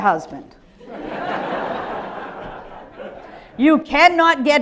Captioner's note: audience laughing